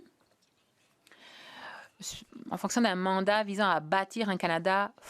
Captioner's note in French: voix de l'interprète